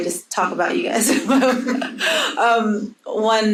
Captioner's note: audience laughing